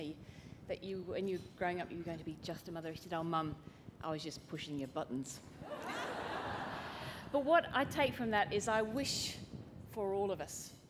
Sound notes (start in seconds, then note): 5.6 laughter